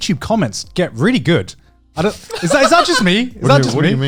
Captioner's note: Joey laughing